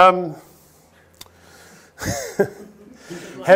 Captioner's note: chuckles